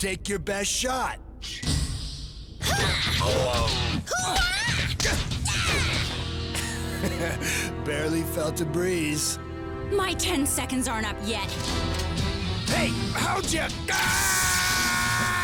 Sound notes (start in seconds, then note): 2.6 fighting grunts; 6.5 snickers; 13.8 screams